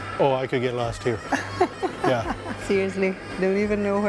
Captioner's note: laughs